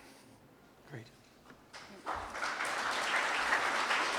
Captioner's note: applause